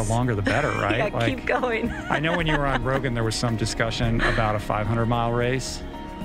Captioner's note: laughter